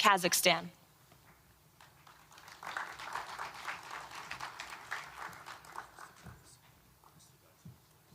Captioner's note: applause